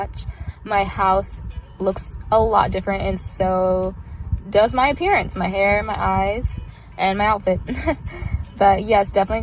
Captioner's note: laughs